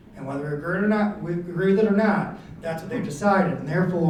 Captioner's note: none